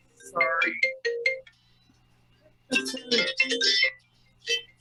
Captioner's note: phone ringing; phone ringing